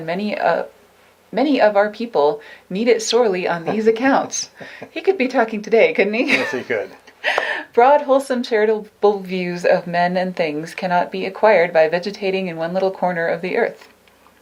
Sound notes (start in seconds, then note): 3.6 laughs; 7.2 laughs